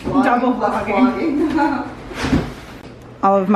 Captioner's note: laughs